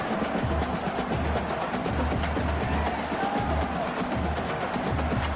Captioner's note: crowd Noises